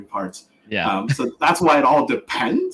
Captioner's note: laughs